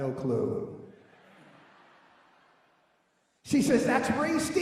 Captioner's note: laughing